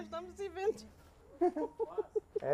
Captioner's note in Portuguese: risos